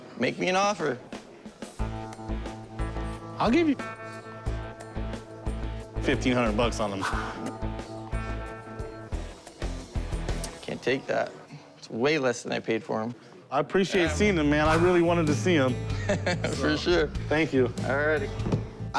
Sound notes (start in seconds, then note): 15.9 laughs